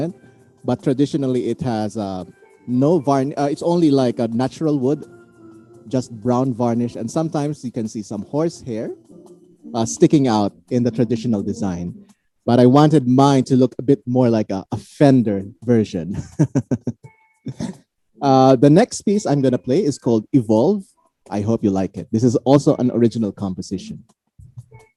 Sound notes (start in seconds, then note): 16.2 laughs